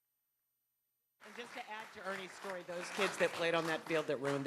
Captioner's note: applause